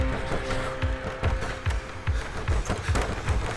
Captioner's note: door rattling